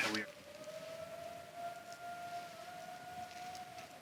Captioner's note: faint howl